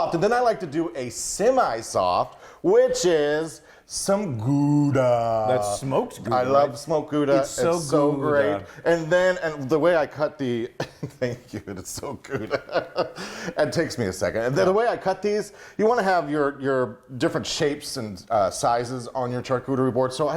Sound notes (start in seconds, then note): 10.7 he laughs; 12.4 he chuckles